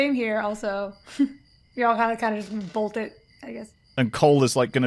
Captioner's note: cricket chirping continues in the background